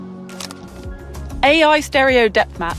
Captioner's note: camera shuttles